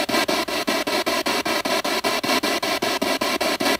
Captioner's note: radio noise from the spirit box